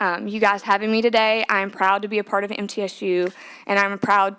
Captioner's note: applause